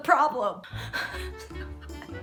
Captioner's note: exhales